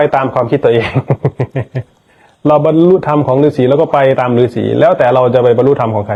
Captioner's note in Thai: เสียงหัวเราะ